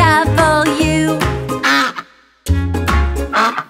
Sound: duck quacks

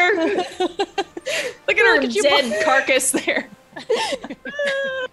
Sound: laugh

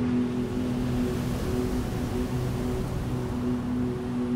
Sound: ocean wind

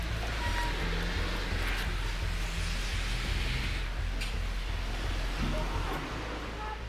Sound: group chattering; static hissing

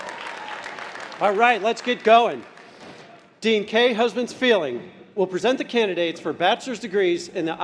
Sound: cheers and applause

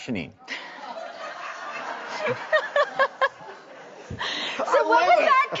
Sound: audience laughing

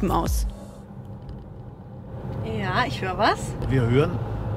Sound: driving sound

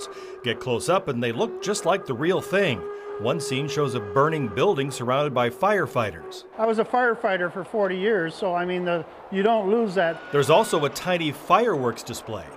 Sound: train whistle

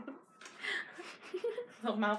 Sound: both laugh

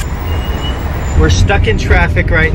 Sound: car engines roaring

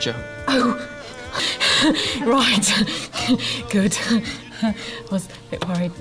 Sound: laughs nervously

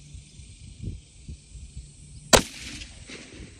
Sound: report of the rifle

